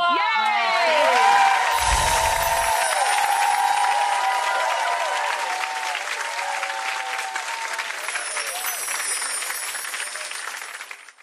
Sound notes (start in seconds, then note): 0.3 clapping; 1.7 magical sounds